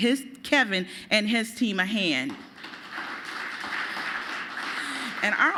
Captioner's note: applause